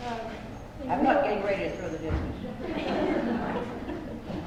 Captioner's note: laughter